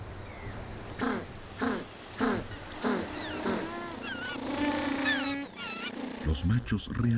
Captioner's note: pingüino graznando